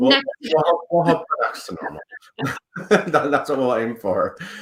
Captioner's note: laughs